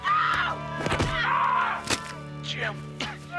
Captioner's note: thudding; Savage yelping